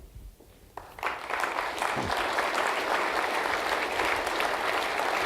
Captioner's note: audience applauding